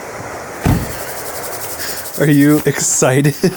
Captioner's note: car door thuds; hands rasping